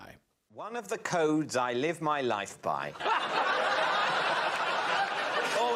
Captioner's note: laughter